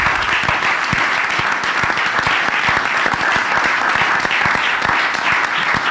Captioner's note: applause